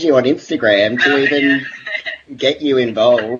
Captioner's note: laughs